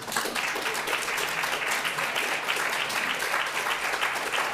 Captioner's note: audience applauding